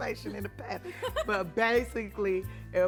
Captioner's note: Esther laughs